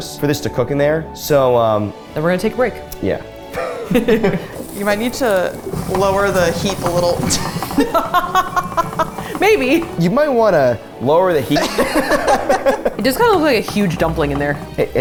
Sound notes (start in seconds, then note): 3.5 both chuckle; 7.2 laughs; 11.5 all laugh